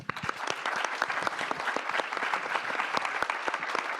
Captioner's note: audience applause